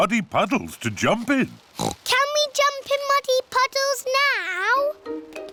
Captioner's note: oinks